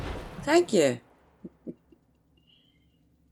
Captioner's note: chuckles